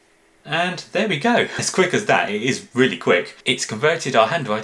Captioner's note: laughing